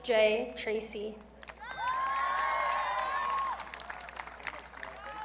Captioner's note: audience cheering